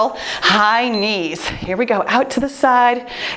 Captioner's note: timer beeps